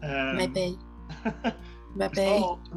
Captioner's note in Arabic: يضحك